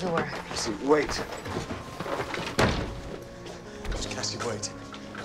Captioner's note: door thuds